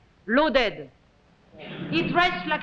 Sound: audience chuckles

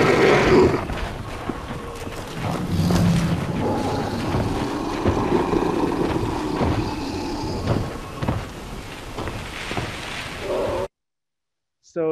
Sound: roaring and footsteps on sand

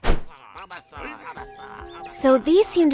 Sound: Bulbasaur and Ivysaur grunts

